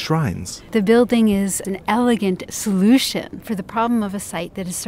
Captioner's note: voiceover